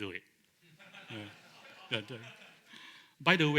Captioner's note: laughter